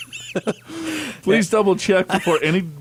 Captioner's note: laughs